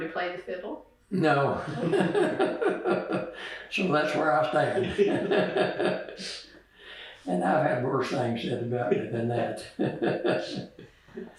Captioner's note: laughter